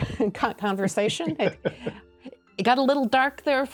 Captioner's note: laughter